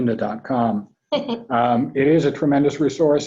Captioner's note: laughs